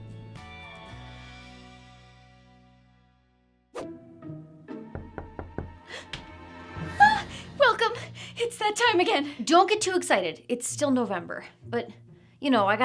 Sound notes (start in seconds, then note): 3.8 whimsical music; 5.0 knocking